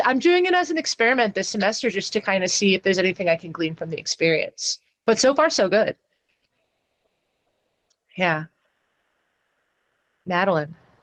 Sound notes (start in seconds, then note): none